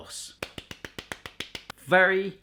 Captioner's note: clapping